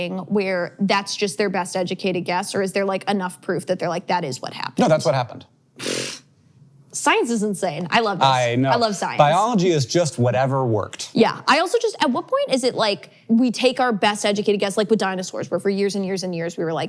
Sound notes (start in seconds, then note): 5.8 blows raspberries